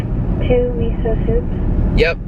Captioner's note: woman on phone